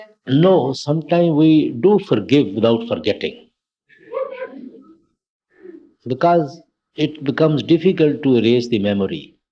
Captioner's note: laughter